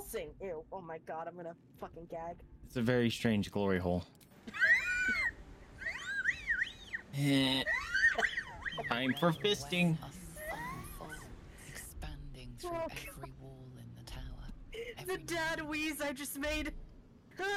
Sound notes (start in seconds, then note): 4.4 wheezing